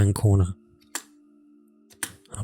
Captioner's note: taps on keyboard